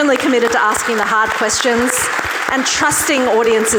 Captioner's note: audience clapping